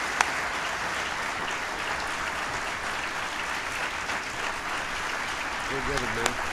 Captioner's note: applause